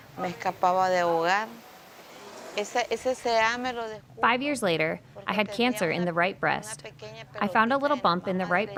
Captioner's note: speaking spanish